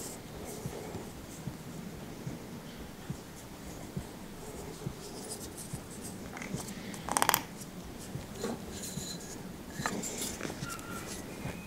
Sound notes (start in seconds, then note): 6.9 creaking